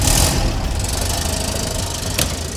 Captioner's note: engine turns over